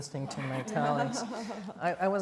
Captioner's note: all laughing